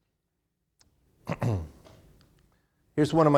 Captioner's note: clears throat